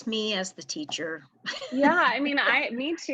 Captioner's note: laughter